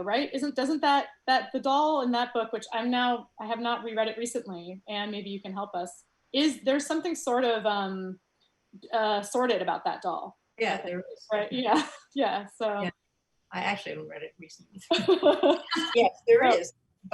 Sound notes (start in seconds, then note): 12.8 soft giggles; 14.9 loud laughs